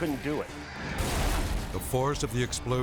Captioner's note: charges explode